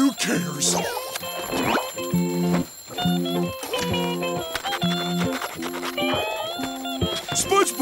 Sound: ringing

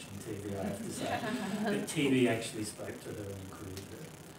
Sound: laugh

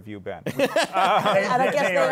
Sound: laughs

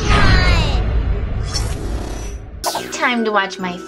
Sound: logo whooshing

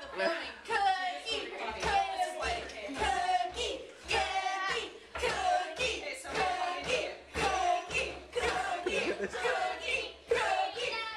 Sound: chanting

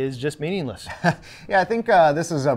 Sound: laughs

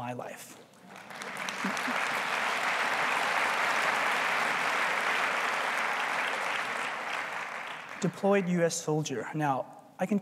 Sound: applause

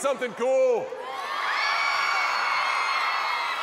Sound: crowd cheering

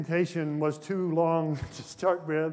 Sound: laughs

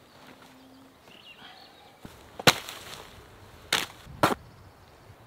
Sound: birds singing

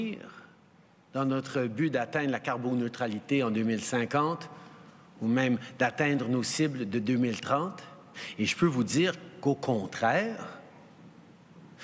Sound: speaking in French

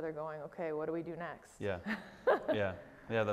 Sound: laughs

